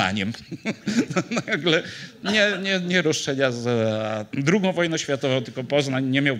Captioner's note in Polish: śmiech